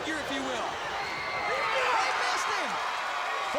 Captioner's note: crowd cheering